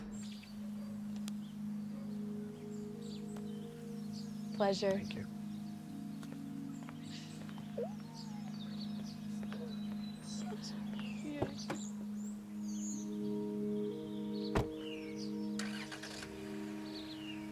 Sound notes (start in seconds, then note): 0.2 birds chirping; 7.3 giggles; 14.5 door closes, car revs